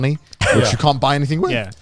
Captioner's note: chuckles